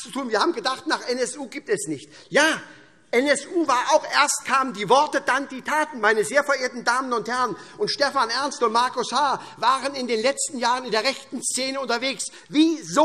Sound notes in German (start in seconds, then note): none